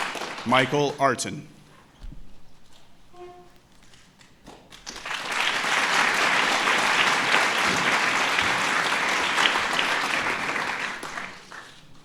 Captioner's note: applause